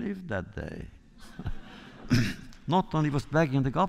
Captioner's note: laughter